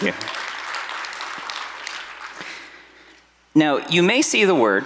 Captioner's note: audience applauding